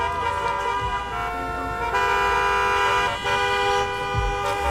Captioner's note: car hoots